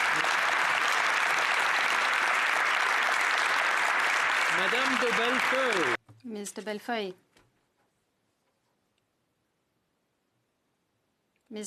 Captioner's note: applause